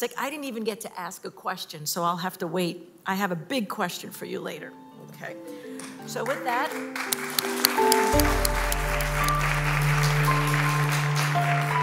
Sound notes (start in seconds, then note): 6.1 applause